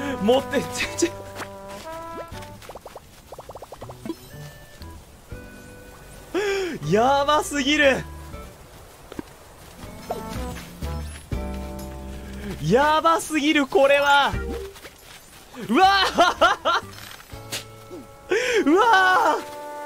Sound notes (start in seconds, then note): 6.3 inhales; 18.2 breathes